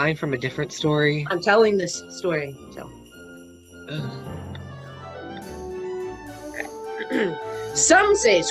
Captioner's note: clears throat